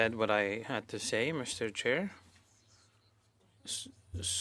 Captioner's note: speaking French